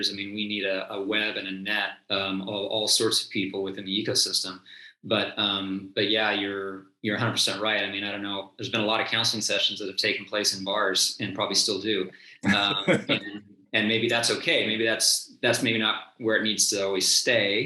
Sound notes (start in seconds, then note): 12.4 chuckles